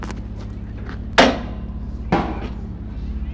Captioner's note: loud clanking